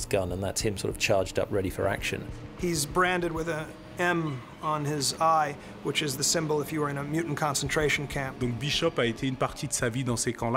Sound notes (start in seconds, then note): 8.5 speaking french